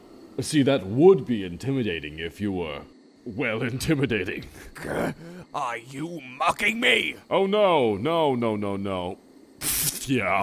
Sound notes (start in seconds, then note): 3.1 mockingly